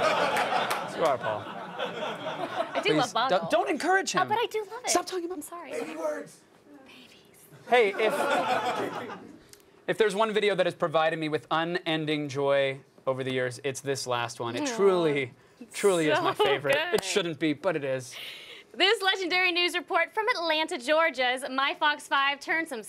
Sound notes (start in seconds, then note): 7.8 laughter